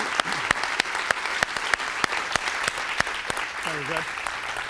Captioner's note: applause